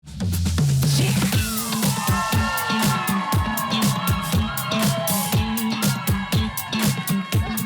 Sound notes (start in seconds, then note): 0.4 upbeat music; 1.3 crowd cheering